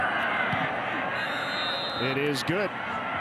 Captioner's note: referee blows whistle